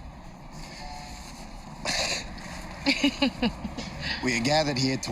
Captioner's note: chuckles; laughs